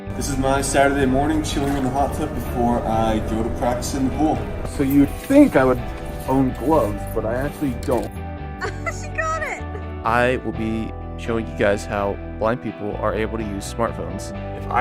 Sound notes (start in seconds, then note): 8.6 laughs